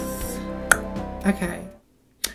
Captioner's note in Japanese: 舌を鳴らす